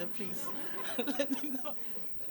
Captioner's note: laughter